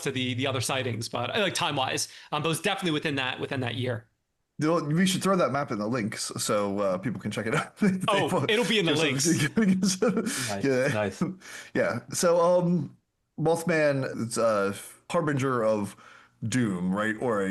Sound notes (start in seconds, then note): 9.1 laughter